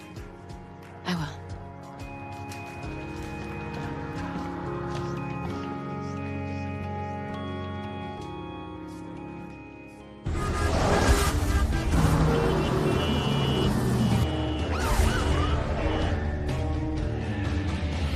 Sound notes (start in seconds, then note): 10.2 horns honking; 15.9 siren